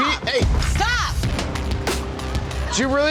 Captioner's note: booming sound effect